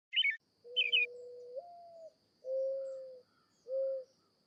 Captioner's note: bird warbling; owl hooting